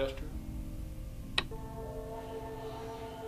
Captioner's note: switch clicking on; muffled 1920's music